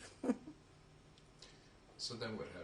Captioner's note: laughs